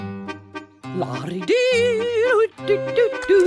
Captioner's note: humming